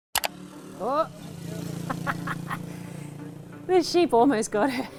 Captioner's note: laughing